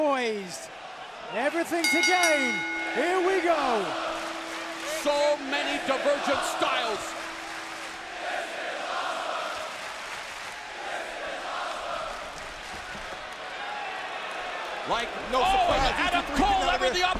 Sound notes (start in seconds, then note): 3.6 bell ringing; 5.9 crowd cheering; 9.2 crowd cheering